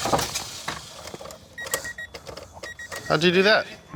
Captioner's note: car turning over; car beeping